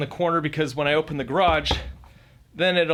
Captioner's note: knocking